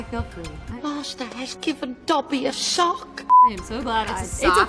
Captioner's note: beep